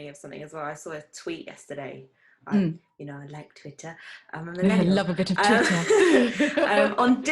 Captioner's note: chuckles